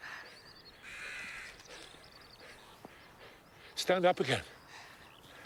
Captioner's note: crow cawing